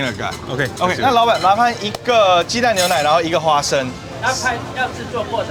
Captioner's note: man speaking foreign language; server speaking foreign language